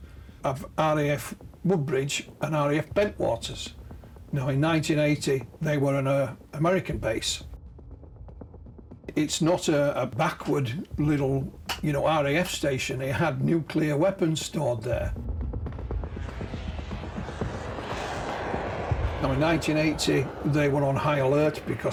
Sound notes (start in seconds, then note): 16.7 aircraft roars